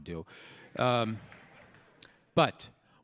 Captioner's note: audience laughing